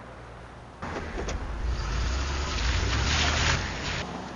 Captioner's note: car driving away